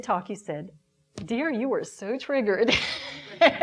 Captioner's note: laughing